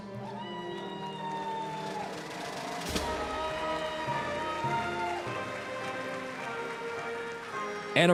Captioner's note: applause, cheering